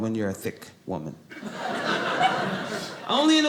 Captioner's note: audience laughing